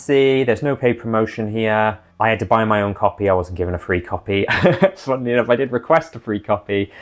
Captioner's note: laughs